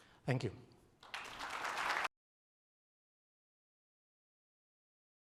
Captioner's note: audience clapping